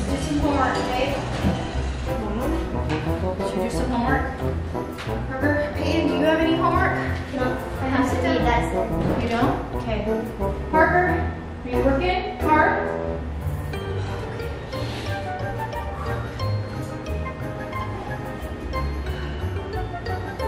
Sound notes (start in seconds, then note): 12.6 whimsical music; 16.1 sighing